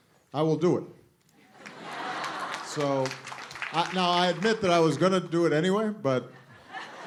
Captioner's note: laughter